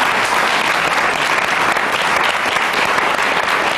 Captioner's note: applause